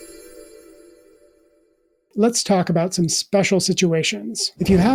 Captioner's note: chimes